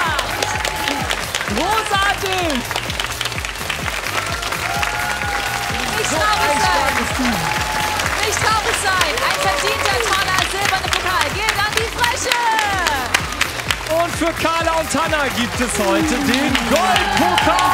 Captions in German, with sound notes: Großartig! (Applaus) Nicht traurig sein, ein verdienter silberner Pokal geht an die Frösche. Und für Carla und Hanna gibt es heute den Goldpokal.